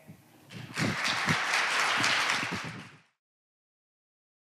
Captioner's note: audience applauding